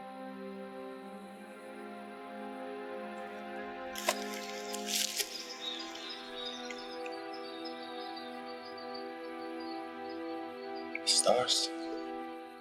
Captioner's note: footsteps crunching on leaves